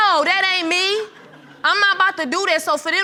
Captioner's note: audience giggles